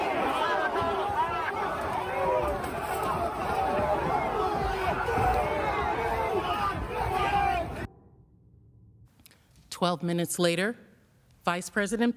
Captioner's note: yelling